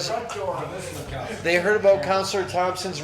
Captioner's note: councillors speaking off microphone